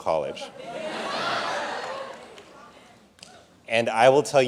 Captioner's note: audience laughing